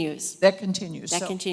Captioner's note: voiceover